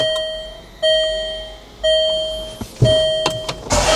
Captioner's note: bell chime